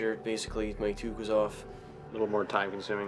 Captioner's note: voiceover